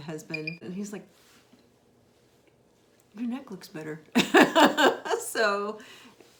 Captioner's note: laughs